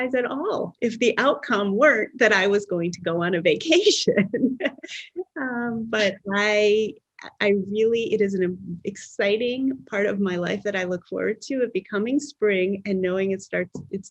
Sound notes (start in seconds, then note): 4.2 laughs